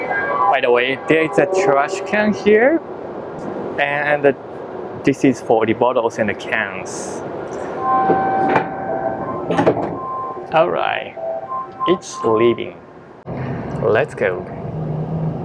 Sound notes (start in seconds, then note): none